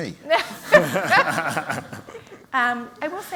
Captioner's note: laughter